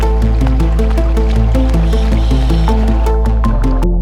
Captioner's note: water splashing; tense synth music continues